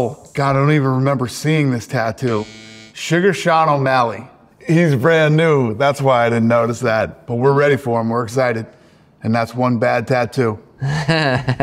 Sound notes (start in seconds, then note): 2.2 buzzer buzzing